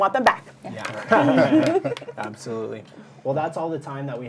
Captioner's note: laughter